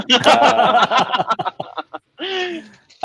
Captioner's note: laughing